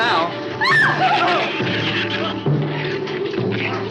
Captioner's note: Ann screams